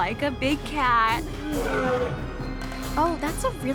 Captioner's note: lion roars